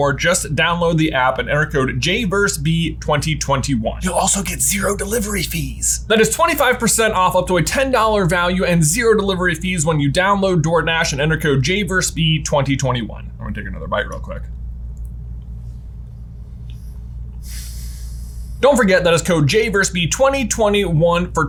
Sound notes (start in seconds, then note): 17.4 sighs